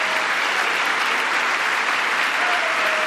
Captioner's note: applause